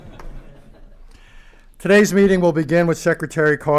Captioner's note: laughter